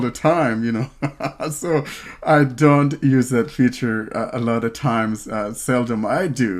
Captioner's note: laughs